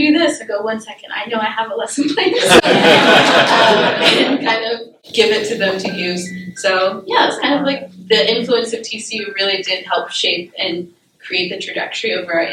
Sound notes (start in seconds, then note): 2.3 laughter